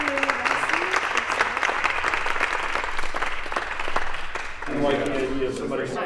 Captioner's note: applause